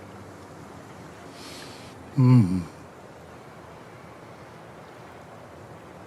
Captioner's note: Yaakob Sighs